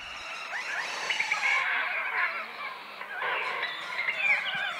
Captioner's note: loud bird calls